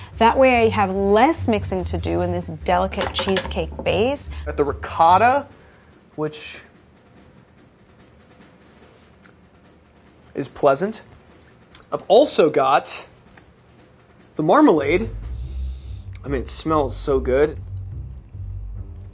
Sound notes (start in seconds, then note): 9.1 eating ricotta; 15.8 sniffing